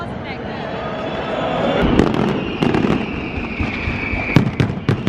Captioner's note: fireworks